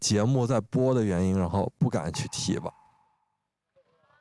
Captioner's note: choking up